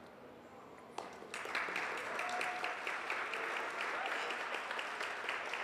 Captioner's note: audience applauds